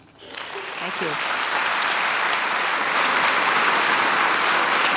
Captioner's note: audience applauding